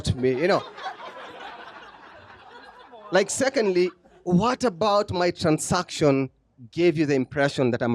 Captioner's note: laughter